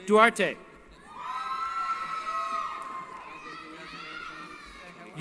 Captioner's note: cheering